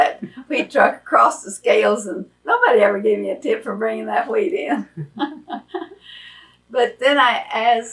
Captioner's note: laughs